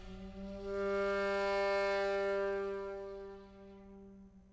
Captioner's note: horn blowing